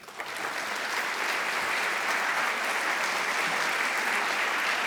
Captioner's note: applause